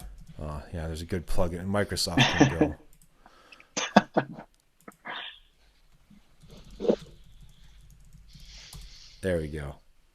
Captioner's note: laughter